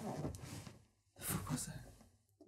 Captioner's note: quietly